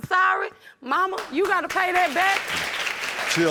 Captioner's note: audience applauding